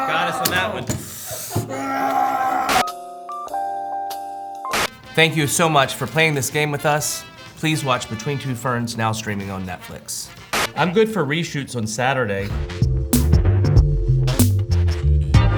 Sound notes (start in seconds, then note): 2.8 static buzzing; 2.8 slow jazz music; 5.0 upbeat music; 10.6 static buzzing; 12.4 funky music